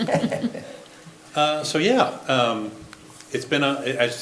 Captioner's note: laughs